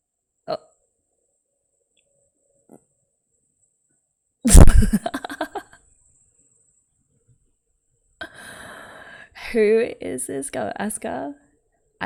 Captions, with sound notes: [laughs] Who is this girl? Asuka.